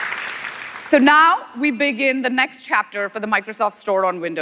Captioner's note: cheers; applause